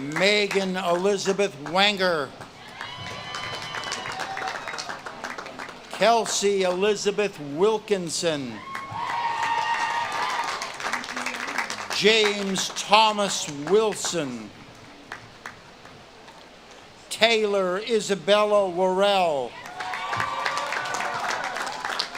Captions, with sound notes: Megan Elizabeth Wanger. (audience claps and cheers) Kelsie Elizabeth Wilkinson. (audience claps and cheers) James Thomas Wilson. (audience claps and cheers) Taylor Isabella Warrell. (audience claps and cheers)